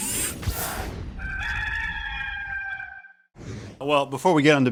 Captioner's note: rooster crows